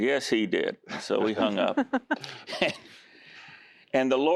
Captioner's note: giggling